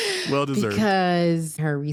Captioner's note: laughing